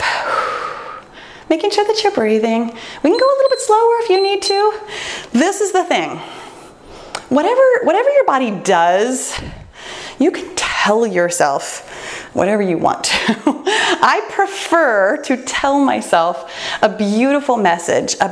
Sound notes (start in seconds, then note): 3.1 timer beeps; 13.5 laughs